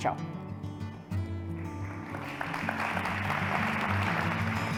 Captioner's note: applause